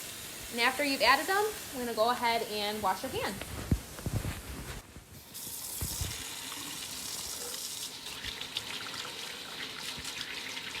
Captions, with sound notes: After you've added them we're going to go ahead and wash your hands. - (water running)